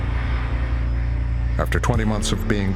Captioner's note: engine humming